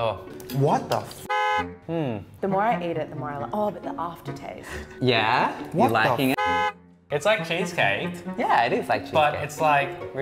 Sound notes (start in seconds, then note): 1.2 car honk; 6.3 car honk